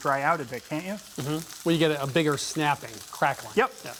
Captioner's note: sizzling